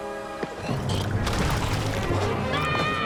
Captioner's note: water splashing